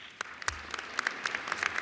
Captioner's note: applause